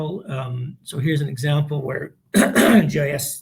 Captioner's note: clears throat